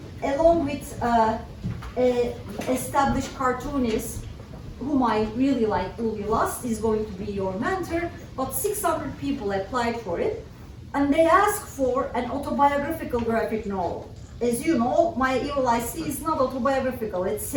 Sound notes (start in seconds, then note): none